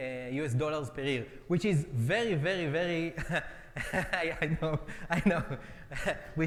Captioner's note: laughs